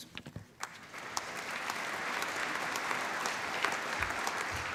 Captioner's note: applause